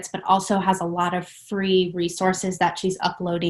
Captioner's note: none